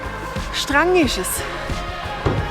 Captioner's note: in Swiss German